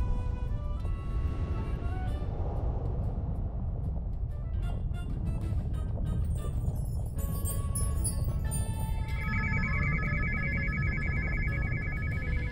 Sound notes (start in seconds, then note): 3.0 clouds whizzing past; 9.1 satellite beeping